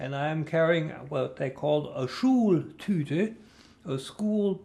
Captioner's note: german